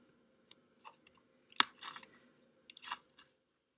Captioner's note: long pause